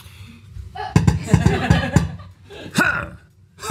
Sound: tap tap tap tap

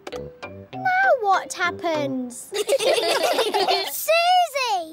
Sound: all giggling

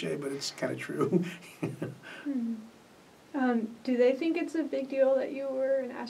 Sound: laughs

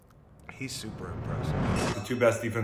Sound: air whooshing

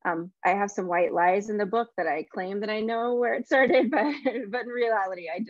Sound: chuckles

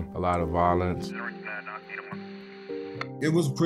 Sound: police radio

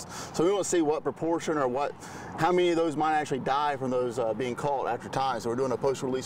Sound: none

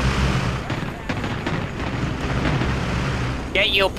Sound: guns firing

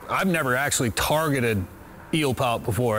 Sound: none

